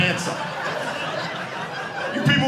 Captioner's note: audience laughing